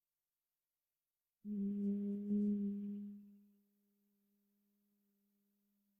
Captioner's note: rounds of humming followed by silence